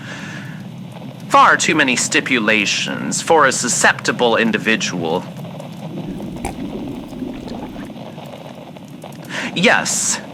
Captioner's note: Alastor sips gin fx